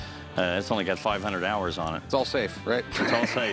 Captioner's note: laughs